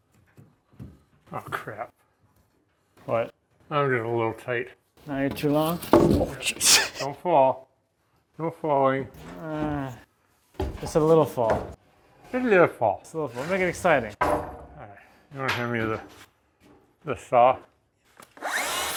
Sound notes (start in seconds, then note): 6.3 laughs; 10.1 groans